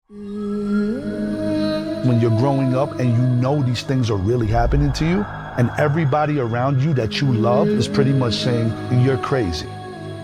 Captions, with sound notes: (sirens wailing) (gentle eerie music) - When you're growing up and you know these things are really happening to you and everybody around you that you love is pretty much saying, "You're crazy."